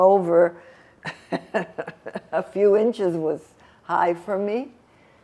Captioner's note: laughing